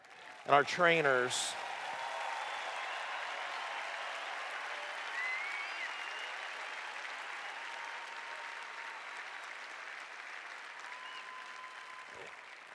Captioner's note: cheers